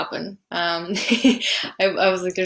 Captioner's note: laughing